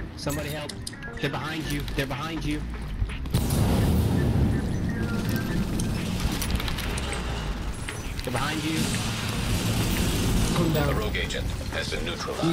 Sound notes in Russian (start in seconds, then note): 3.3 бум